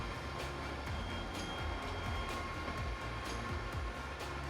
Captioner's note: camper buzzing